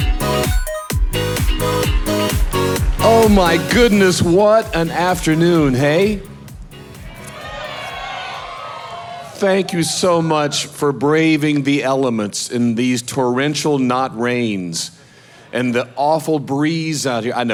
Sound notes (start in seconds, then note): 7.3 audience clapping